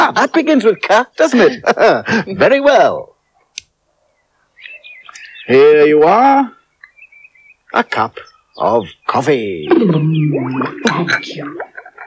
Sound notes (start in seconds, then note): 1.2 laughs; 3.5 snaps Fingers